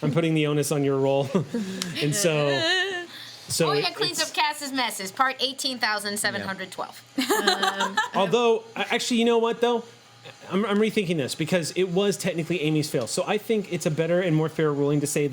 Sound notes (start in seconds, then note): 7.2 laughing